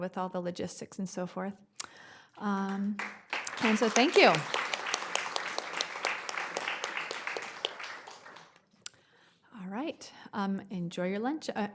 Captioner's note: applause